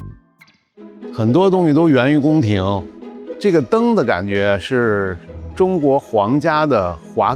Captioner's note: continues speaking in foreign language